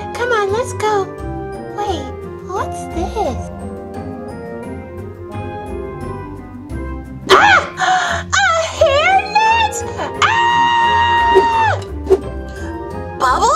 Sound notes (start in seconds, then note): 7.3 screaming and gasping; 10.2 screaming